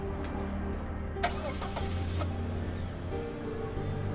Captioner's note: car engine starts